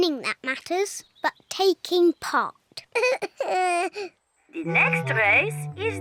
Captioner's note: sobs